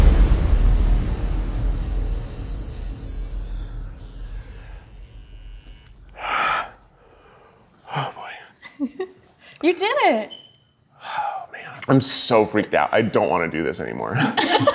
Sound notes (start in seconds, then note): 6.1 sighs heavily; 14.2 laughing